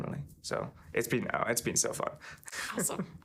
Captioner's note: chuckling